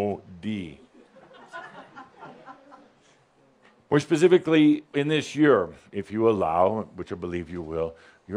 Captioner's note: a couple of giggles